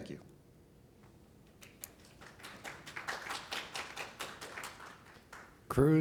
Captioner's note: applause